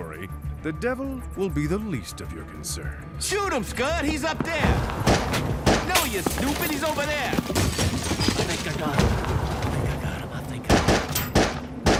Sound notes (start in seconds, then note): 5.0 cape flutters, gunshots fire; 5.8 crashing; 10.6 gunshots fire